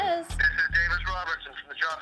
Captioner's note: on phone